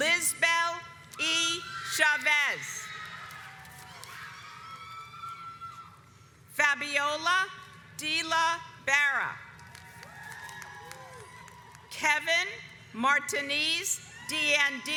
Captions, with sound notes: Lizbell E Chavez. (audience cheers) Fabiola Dela Barra Kevin Martinez Diandinoruiz